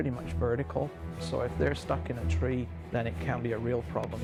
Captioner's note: voiceover